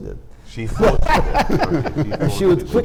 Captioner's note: panelists laughing